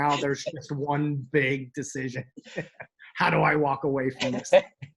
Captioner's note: chuckles